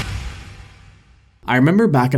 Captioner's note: whooshing